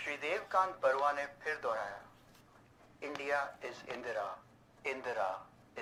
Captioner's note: radio